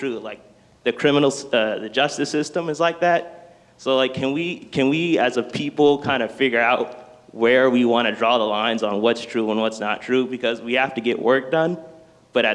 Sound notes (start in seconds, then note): none